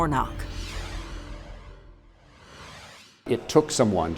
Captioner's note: logo whooshing